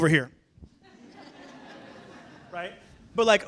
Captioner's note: laughter